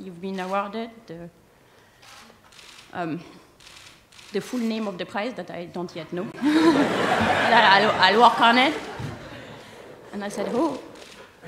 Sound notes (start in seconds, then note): 6.3 laughter